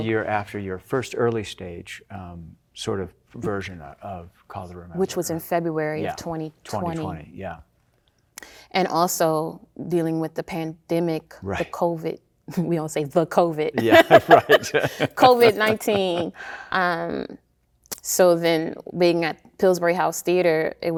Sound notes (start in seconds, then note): 13.8 both laughing